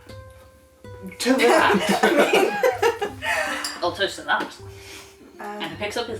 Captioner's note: laughter